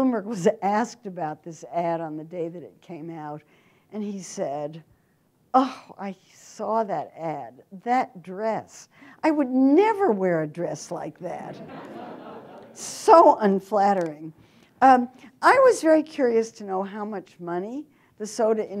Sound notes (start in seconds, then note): 11.5 audience laughter